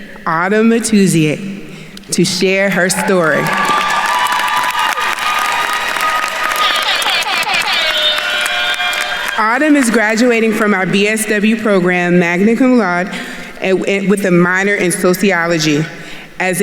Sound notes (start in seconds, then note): 2.9 attendees cheering and applauding; 7.4 horn blowing